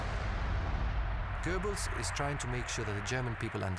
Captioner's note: cheers and applause